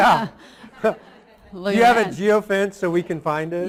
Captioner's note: laughter